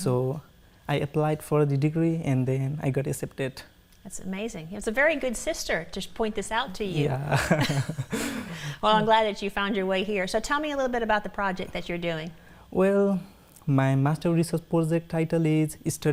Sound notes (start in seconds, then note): 7.0 both laugh